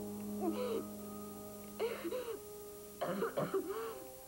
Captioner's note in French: Pleurs; Toux